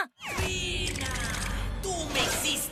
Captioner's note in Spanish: none